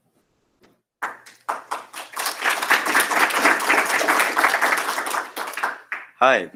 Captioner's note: applause